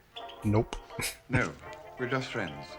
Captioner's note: chuckling